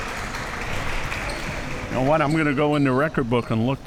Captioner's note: crowd applauding